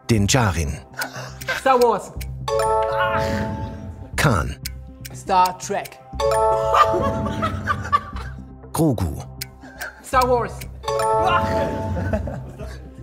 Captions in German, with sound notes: Star Wars. Ach! Star Trek. (Übertriebenes Lachen) Star Wars. Oach!